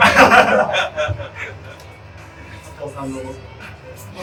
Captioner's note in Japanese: 会場：笑